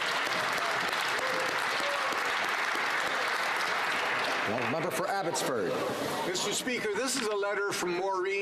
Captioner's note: applause